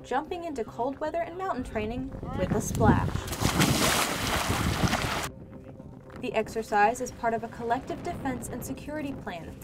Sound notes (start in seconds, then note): 3.2 splash